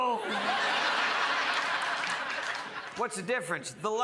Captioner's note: crowd laughs